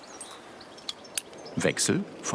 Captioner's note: click